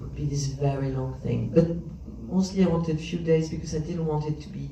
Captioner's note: none